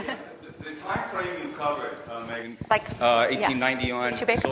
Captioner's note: man speaking off microphone